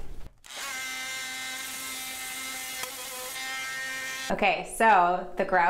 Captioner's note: oscillating tool whirring